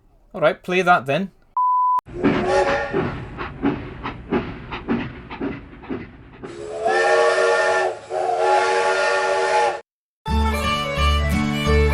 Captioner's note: RCT2 train sounds